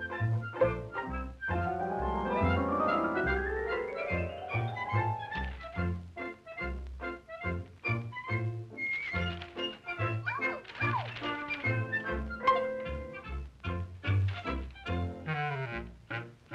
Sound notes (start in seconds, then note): 8.6 paper Tearing